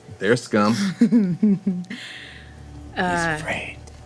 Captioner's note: laughing